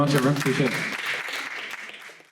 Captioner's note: clapping